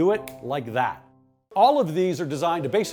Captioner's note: fingers snap